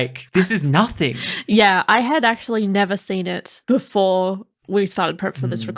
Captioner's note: laughing